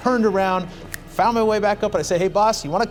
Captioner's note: snaps fingers